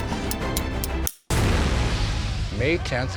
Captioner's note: explosion bangs